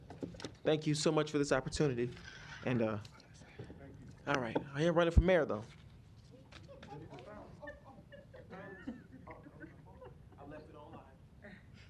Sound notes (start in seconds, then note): 7.5 laughter